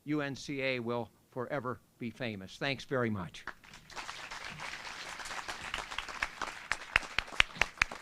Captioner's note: applause